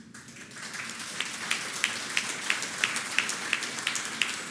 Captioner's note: applause